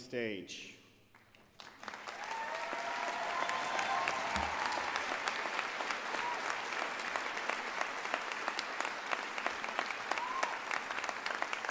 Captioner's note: cheering and Applause